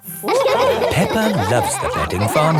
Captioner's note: all laughing